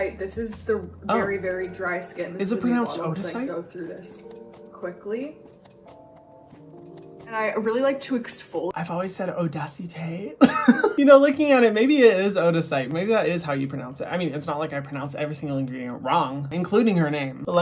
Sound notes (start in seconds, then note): 6.0 serene music; 10.4 laughs